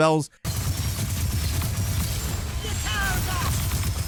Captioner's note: gun blasting; dramatic orchestral music; characters yelling